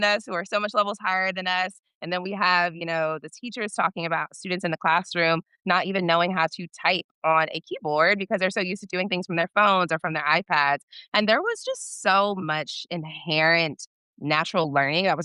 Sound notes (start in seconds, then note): none